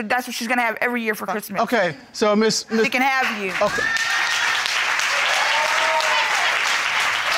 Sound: audience applauds

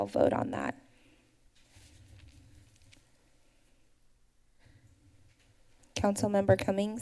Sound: pause

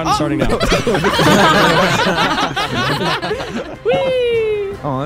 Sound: all laughing

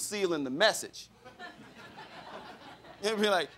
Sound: crowd laughing

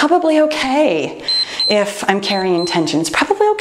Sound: timer beeps

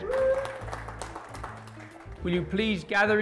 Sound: applause

